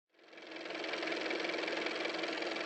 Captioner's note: car motor